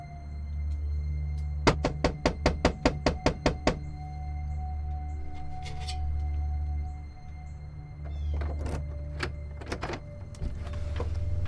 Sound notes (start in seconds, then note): 1.6 Nick knocking; 8.0 doorknob rattles